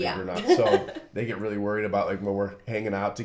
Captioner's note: laughs